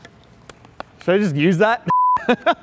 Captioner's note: beep